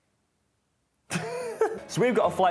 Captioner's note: laughs